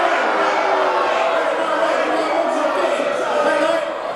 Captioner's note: audience booing